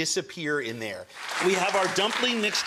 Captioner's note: crowd clapping